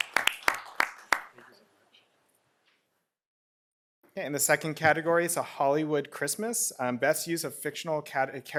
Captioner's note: applause